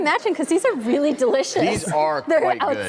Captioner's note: laughs